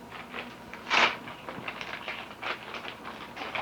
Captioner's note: package being opened